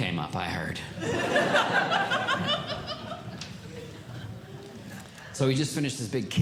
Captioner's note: audience Laughing